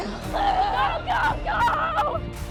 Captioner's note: yelling